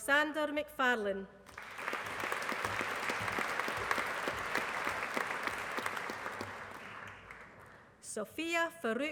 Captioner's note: applause